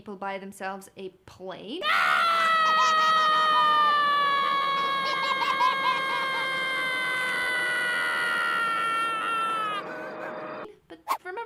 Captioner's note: ahhhhhh! Baby laughter